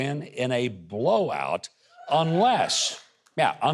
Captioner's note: audience cheers